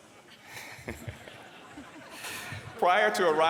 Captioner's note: laughter